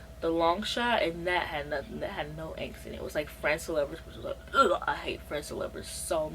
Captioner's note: disgust noise